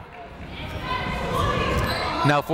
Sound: people shouting in the crowd

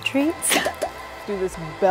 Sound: laughing

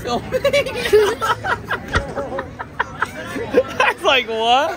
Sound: laughing

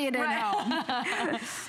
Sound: laughter

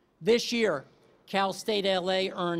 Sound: none

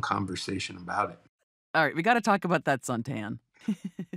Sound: chuckles

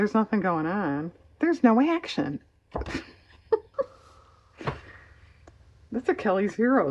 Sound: laughs

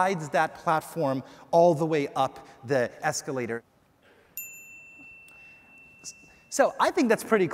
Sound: electronic dings

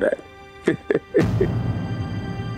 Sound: laughing

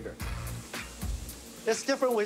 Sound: sizzling

